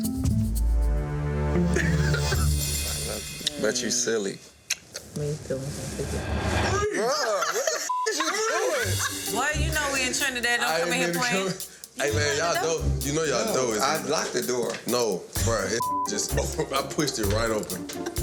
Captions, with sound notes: (dramatic instrumental music) (man laughing) I love you, but you silly. - Freeze! - Ah! What the (beep) is you doing? - Freeze! - Boy, you know we in Trinidad. Don't come in here playing. - I didn't mean to come in. Hey man, y'all door. You know y'all door isn't locked? - I locked the door. - No. Bro, this (beep) just, I pushed it right open.